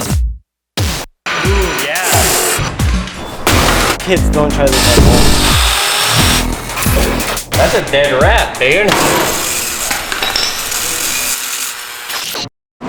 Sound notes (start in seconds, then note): 8.8 power Tools Whir